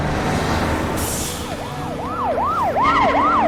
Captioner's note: siren approaching